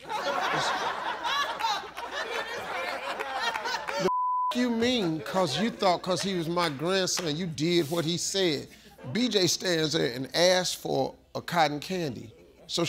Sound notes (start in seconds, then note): 0.0 audience laughs; 4.0 beep